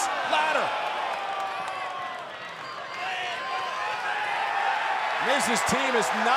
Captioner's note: applause